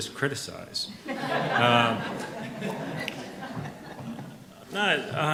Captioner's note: audience laughs